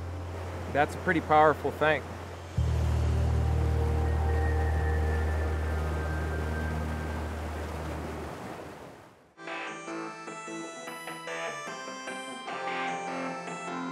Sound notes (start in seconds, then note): 2.5 tranquil music; 3.1 water rushing; 9.6 upbeat music